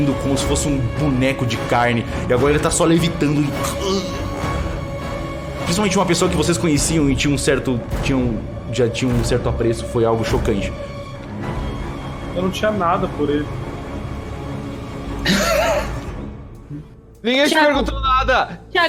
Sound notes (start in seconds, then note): 15.2 laughs